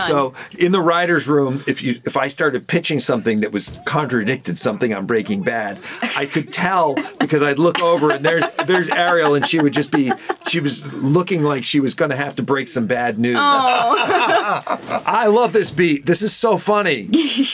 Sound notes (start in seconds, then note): 13.4 laughing